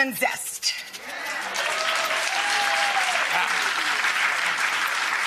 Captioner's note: audience cheering